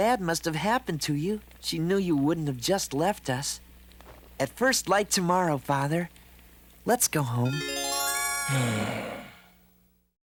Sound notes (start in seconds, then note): 8.4 sighs